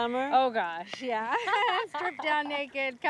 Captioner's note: laughing